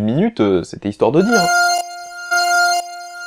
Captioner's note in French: R2 bipe